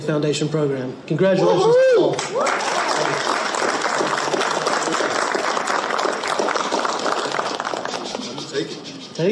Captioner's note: audience clapping